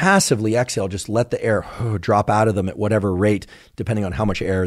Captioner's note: exhales